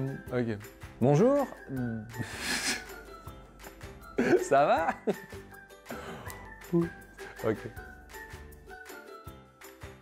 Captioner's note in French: rires